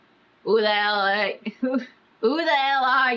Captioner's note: laughs